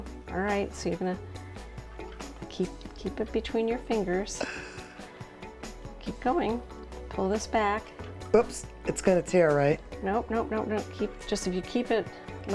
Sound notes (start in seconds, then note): 4.4 gasping